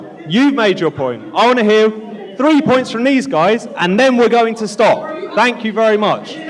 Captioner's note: audience Shouting